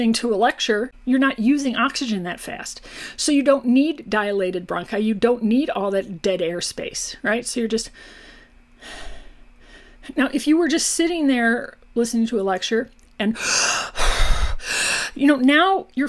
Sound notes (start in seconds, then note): 7.9 breathes calmly; 13.4 breathes heavily and deeply